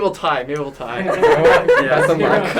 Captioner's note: laughter